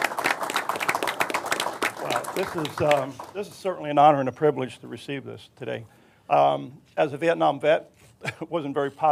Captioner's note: applause